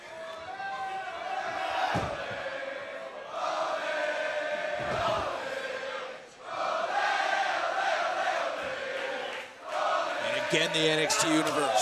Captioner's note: crowd chatter